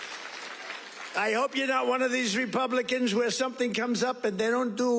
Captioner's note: applause